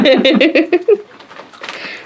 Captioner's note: laughing